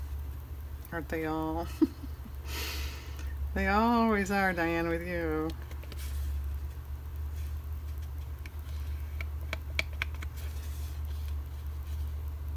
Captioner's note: laughs